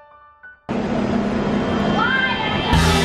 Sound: mister blowing

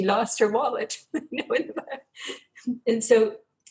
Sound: laughs

